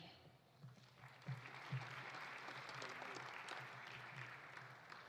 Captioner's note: audience applauding